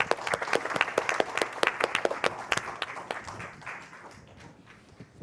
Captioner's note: applause